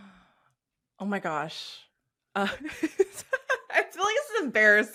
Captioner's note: chuckles